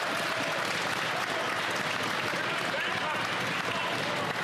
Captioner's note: yelling; applause